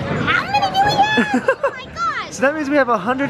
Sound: laughs

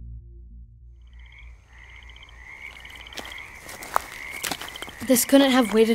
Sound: crickets chirping, leaves rustling

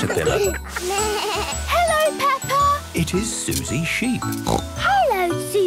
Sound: bleating; snorting

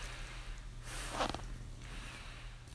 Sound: unzipping pants

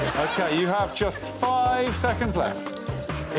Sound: laughter

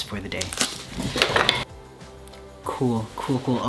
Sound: tearing and clattering

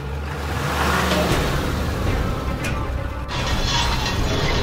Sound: engine revs

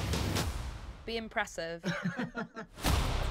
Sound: chuckles

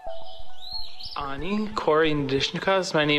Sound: speaking indigenous language

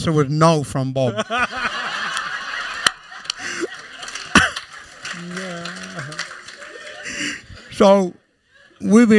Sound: laughter

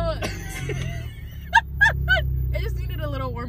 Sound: both laughs

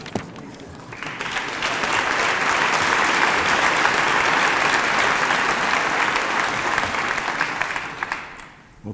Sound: applause

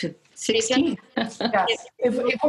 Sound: laughs

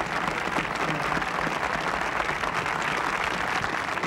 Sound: crowd applauding

